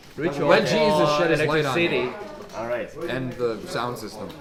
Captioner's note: none